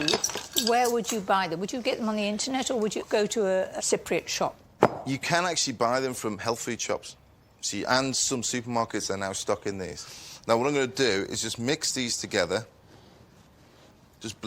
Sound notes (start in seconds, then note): none